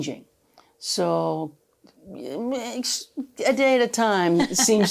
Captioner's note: laughs